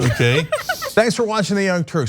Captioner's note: laugh